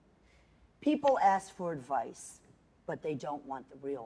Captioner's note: none